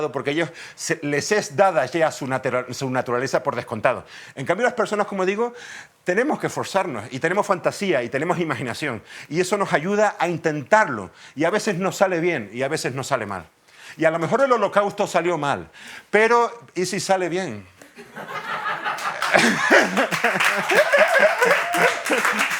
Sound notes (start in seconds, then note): 17.8 laughter